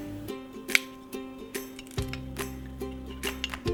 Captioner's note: crust cracks